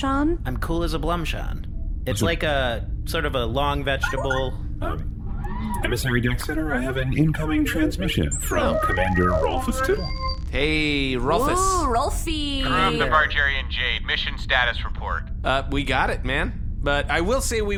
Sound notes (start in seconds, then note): 6.6 incoming transmission sound